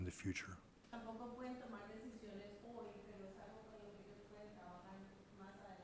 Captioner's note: speaking in foreign language